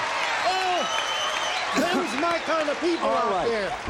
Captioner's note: cheers and applause